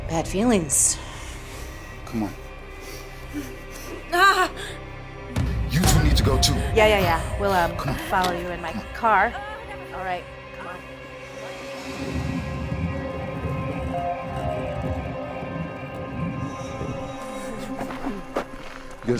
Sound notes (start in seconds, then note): 3.2 Emma whimpering; 13.2 mysterious music